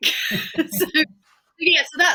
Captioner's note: laughs